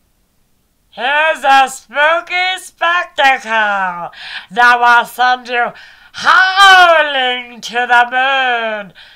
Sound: weird voice

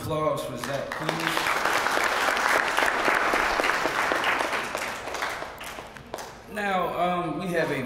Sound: applause

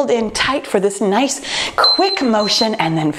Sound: timer beeping

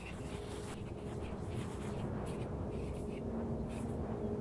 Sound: pencil scribbling; planes passing, birds chirping; gentle orchestral music

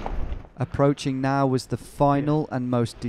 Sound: voiceover

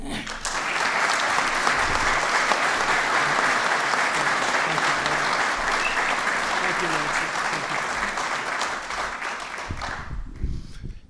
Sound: applause

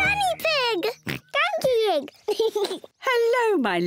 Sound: giggles and oinks; laughs; oinks

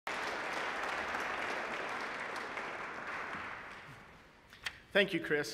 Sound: applause

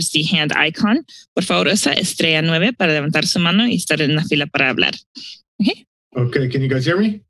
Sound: speaking in foreign language

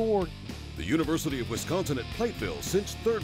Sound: voiceover

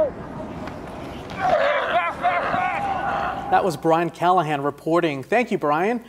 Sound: team chatter

